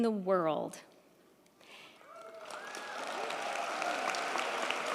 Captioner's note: crowd clapping